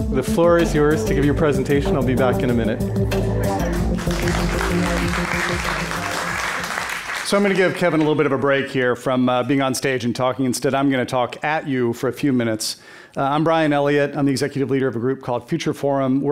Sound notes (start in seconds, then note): 3.5 audience applauding